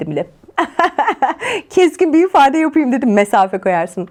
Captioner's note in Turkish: kahkaha